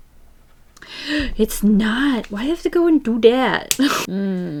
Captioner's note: laughs